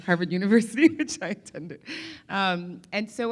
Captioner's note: laughs